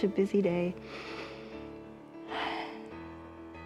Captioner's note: inhales and exhales